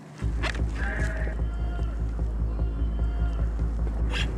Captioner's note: man shouting